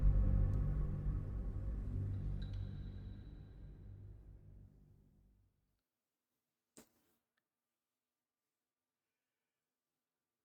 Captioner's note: silence